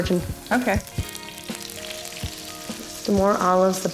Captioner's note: oil sizzling